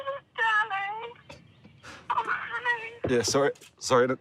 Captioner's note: on phone